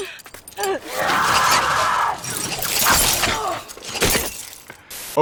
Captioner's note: climber screams